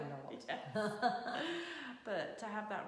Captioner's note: laughing